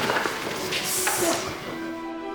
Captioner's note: man hisses